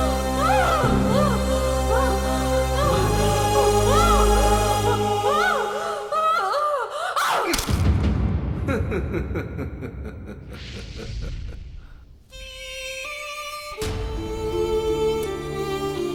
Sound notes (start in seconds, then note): 7.2 bones Break; 8.6 Bishop laughs